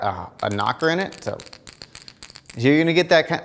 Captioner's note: knocking sound